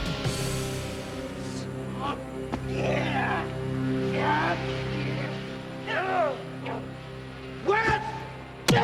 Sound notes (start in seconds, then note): 4.5 yelling